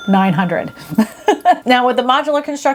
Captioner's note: laughing